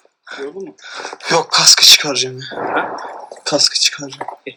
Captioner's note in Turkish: Patlama sesi